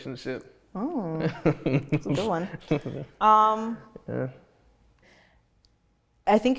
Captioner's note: laughs